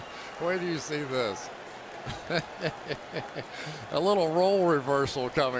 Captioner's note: laughing